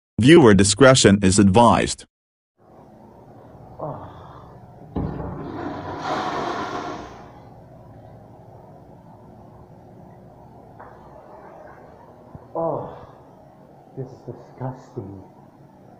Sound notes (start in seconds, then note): 3.7 groaning; 5.2 Allbrook Flushing